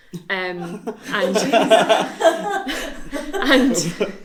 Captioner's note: all laughs